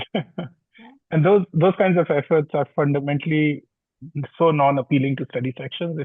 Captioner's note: laughs